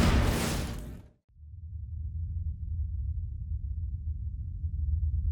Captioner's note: low rumble